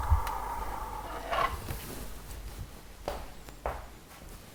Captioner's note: door opening